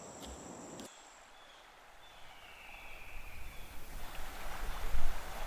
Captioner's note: water rushing